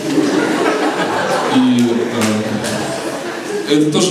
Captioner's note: laughter